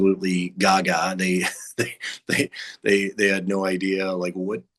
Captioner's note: chuckles